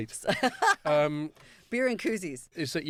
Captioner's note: laughing